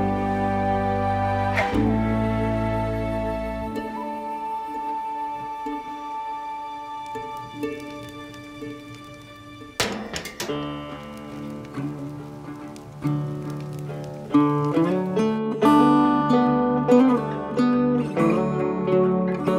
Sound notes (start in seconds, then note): 8.9 door Clicks Shut